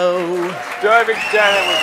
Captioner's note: crowd applauds again